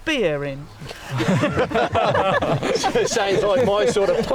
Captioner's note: group laughs